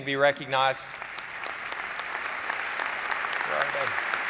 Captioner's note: applause